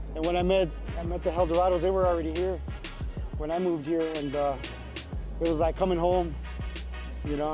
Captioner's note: none